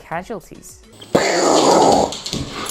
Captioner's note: banging on hardwood floor; pew